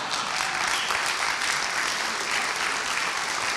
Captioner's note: applauding